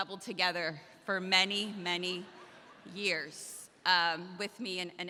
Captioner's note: audience laughs